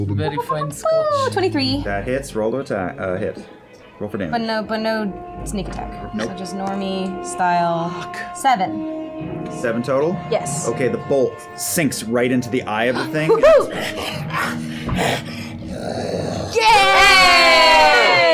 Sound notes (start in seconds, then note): 13.8 death rattling; 16.5 cheering